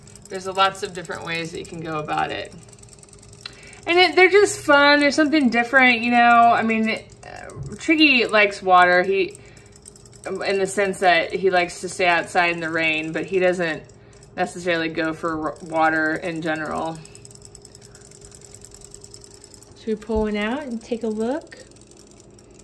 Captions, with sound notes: There's lots of different ways that you can go about it. And they're just fun, they're something different. Triggy likes water in the sense that he likes to stay outside in the rain, but he doesn't necessarily go for water in general. (toy clicking) Should we pull one out and take a look?